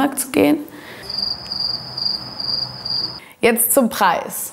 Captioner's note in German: Grillenzirpen